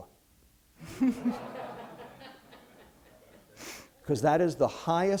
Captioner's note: laughter